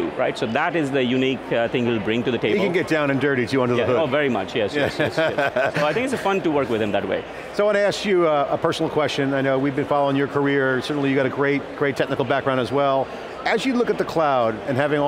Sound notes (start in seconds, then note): 4.8 laughs